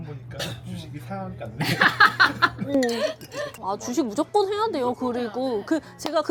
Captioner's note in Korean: 목을 가다듬음; 웃음